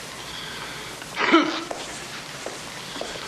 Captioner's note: coughs